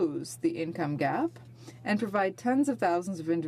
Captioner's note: speaking French